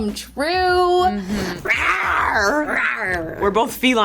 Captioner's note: purring